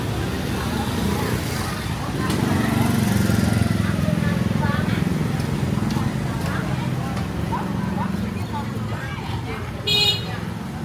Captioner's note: noise of motorbikes passing through the narrow alley